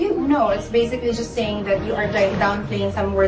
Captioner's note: none